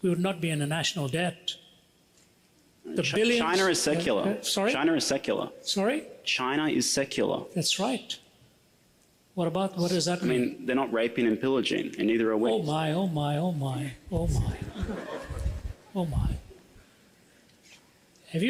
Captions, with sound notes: we would not be in a national debt. - China is secular. China is secular. - That's right. What does that mean? - They're not raping and pillaging, and neither are we. - Oh my, oh my, oh my, oh my. (audience laughs) Oh my.